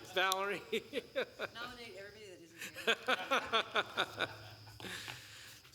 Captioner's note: laughter